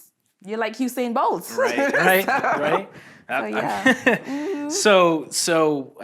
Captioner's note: laughs